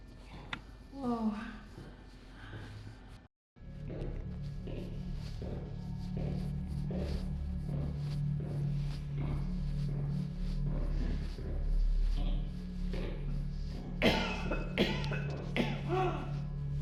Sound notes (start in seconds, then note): 14.0 coughing